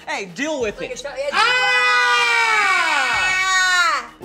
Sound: group screaming

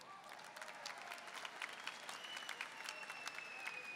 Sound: audience applauding

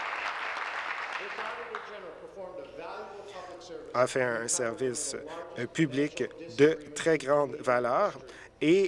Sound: applause

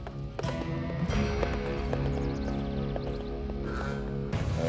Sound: horse approaching

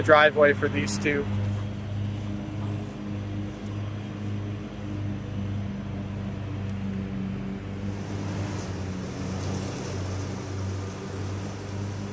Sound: traffic humming in the background

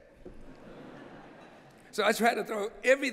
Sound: laughter

